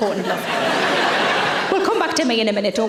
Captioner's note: audience laughing